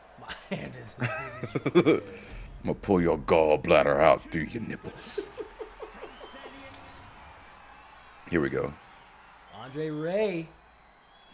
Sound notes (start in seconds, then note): 7.6 laugh